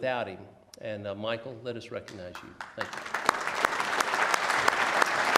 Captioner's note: applause